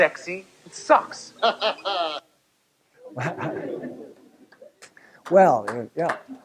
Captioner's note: laugh